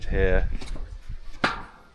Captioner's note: metal clanking